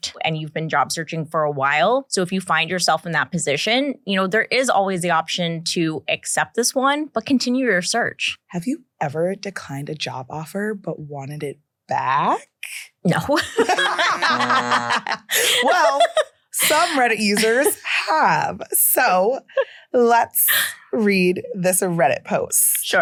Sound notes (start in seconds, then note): 13.3 both laughing; 14.0 beeper buzzing